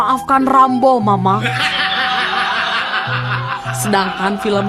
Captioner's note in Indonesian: tertawa